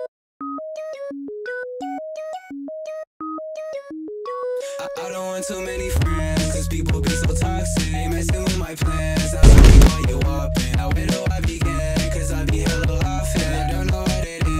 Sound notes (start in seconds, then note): 9.3 smacking; 9.4 Vine boom sound